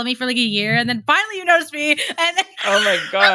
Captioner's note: laughs